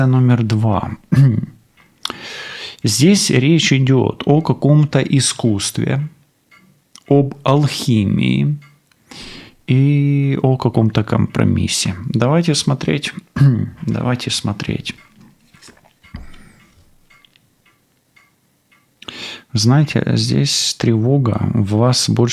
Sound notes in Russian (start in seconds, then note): 1.0 откашливается; 8.8 фыркает; 16.1 откашливается